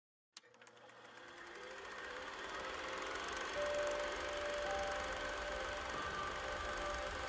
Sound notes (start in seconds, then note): 0.4 film projector starts; 5.7 calm piano music